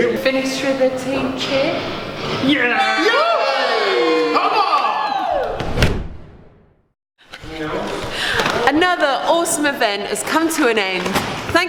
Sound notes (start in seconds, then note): 2.6 cheering; 5.6 air whooshing